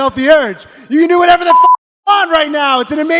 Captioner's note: beep